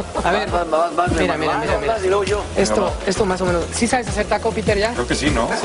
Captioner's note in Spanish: risas